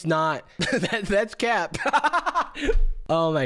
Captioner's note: laughs